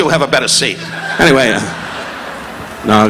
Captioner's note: audience laughing